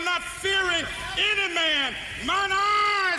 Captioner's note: applause